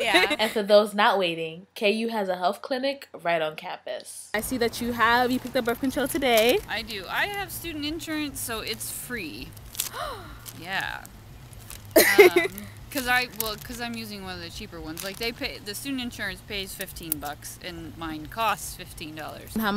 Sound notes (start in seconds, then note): 9.9 gasp; 12.0 laughs